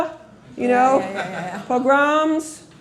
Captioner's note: laughter